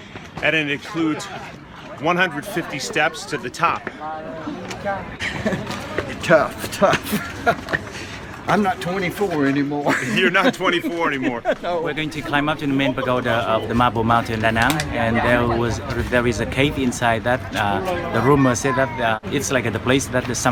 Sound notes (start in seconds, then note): 3.6 stomping footsteps; 7.3 laughs; 9.8 man laughing